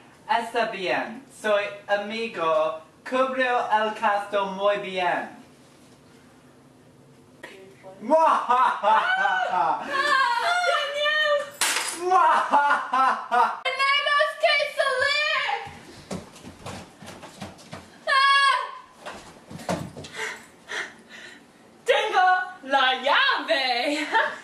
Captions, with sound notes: That's okay. Your friend will cover the cost very well. *evil laughter* *screams* Danielle! We have to leave! I have the room key!